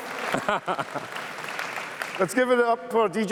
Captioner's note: laughs